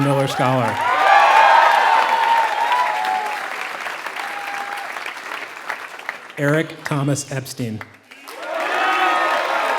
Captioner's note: applause